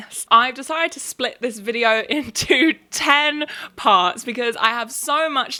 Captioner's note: laughs